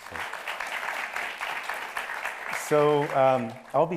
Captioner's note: audience applauds